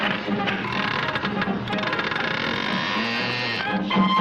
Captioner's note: monkey chitters; door creaks